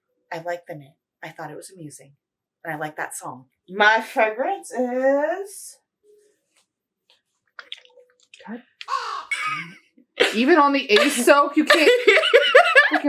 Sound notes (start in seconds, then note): 8.8 caw